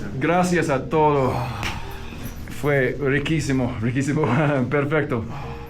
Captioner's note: foreign language; hand smacks